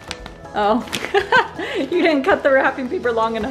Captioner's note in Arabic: يضحك